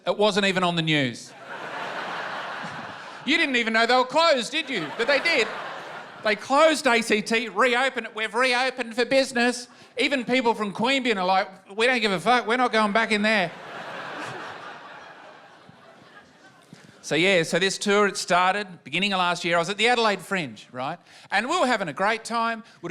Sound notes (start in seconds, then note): 13.5 laughter